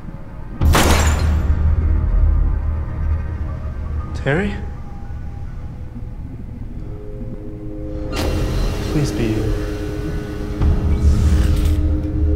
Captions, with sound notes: (banging) (dramatic music) Terry? Please be you.